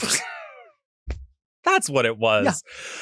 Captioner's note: laughs